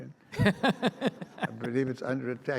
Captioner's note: audience laughs